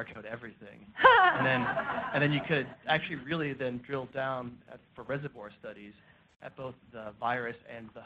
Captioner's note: laughter